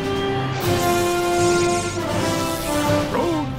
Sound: lightning sounds

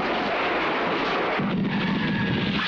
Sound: explosion

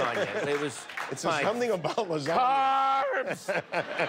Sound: laughter

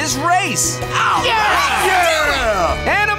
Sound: cheering

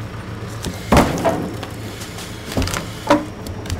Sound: log thuds

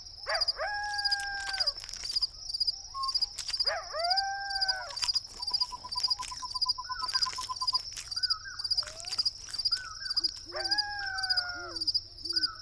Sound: crunching and smacking

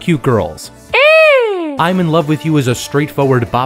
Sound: shrieking

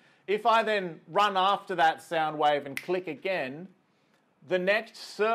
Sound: clicks finger

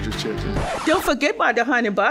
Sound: record scratches

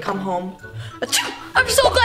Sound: sneeze

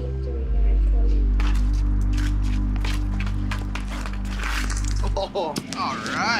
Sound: hockey sticks scraping

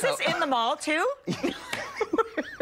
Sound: laughter

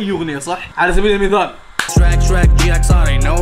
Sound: claps

